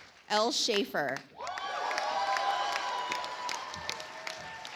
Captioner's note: audience applauds